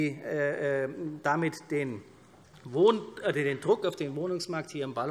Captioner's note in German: none